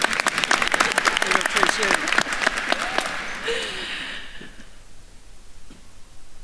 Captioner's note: attendees applauding; faculty member faintly speaking